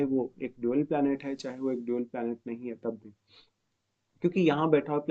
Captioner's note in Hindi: नाक से की जाने वाली आवाज़